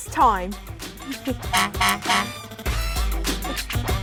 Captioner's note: hoots